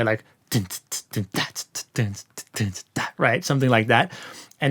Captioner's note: mimics drum sounds